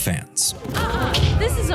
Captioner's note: thumping